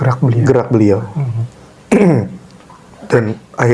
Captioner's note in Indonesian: berdehem